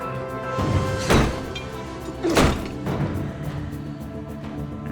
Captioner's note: intense dramatic music; door lock clanging; intense dramatic music